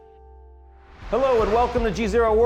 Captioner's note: screen whooshing